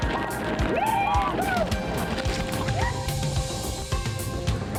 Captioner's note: men whooping